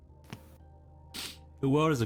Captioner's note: sniffles